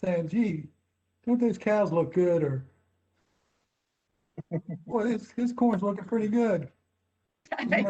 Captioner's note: laughter